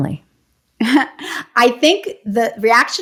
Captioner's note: laughs